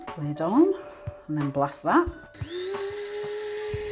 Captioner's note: coffee grinder whirring